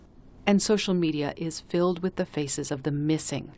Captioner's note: voice-over